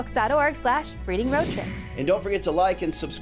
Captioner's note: screen whooshing